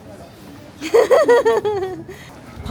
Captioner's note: goofy laughter